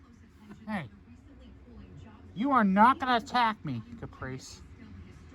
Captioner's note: slurred